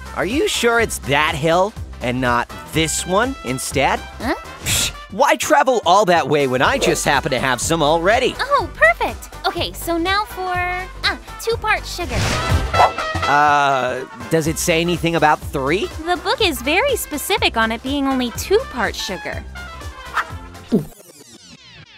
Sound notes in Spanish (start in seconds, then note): 20.7 gulp